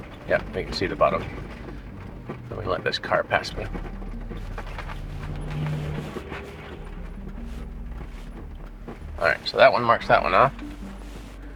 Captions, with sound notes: Yep, we can see the bottom. Let me let this car pass me. (vehicle rattling) (suspenseful music continues) All right, so that one marks that one off.